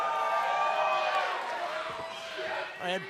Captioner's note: crowd chatter